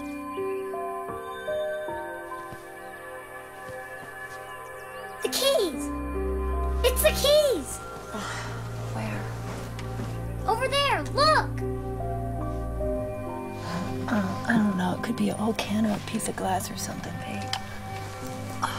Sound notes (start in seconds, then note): 8.5 Groans